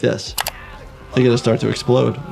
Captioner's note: screen clicking